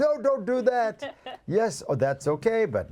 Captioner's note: laughs